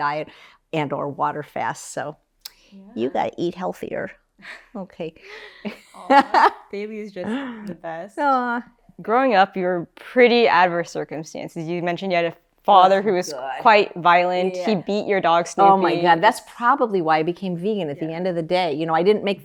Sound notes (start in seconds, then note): 5.6 laughs